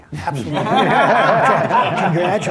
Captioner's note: laughter